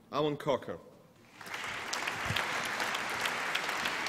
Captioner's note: applause